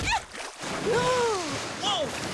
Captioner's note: mud splashing; gasping